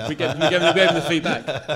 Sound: laughing

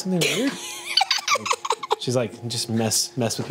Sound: group laughs

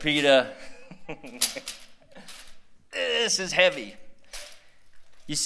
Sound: laughter

